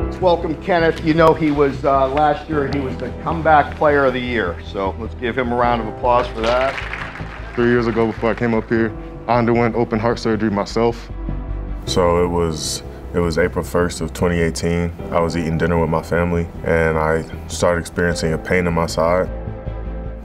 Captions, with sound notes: - Let's welcome Kenneth, you know, he was last year, he was the Comeback Player of the Year. So let's give him a round of applause for that. (audience applause) - Three years ago, I came up here, I underwent open-heart surgery myself. So it was April 1st of 2018, I was eating dinner with my family and I started experiencing a pain in my side.